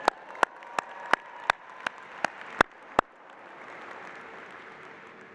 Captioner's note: applause